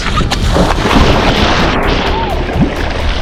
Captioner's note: water splashing